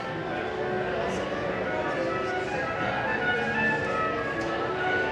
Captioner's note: concert hall chatter and music warm up